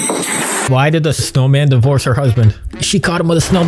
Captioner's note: dish smashing